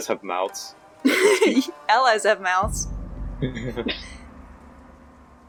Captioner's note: laughs